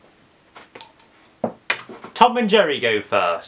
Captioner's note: pencil clatters on the floor